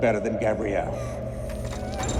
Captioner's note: girl whimpering